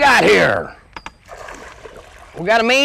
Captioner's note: gig splash